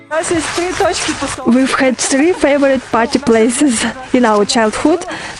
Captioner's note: laugh